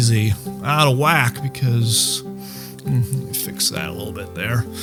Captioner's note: breathing heavily